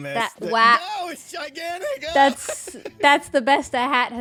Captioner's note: laughs